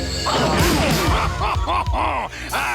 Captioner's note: laughing